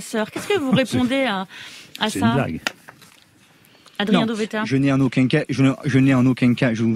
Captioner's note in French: Voix chasseur